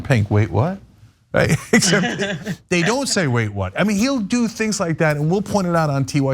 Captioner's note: laugh